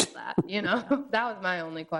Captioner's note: both chuckles